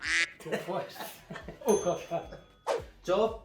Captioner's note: laughs